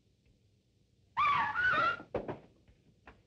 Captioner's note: screaming